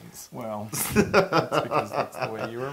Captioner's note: laugh